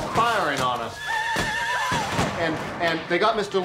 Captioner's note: gunshots